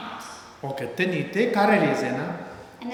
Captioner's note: speaking tibetan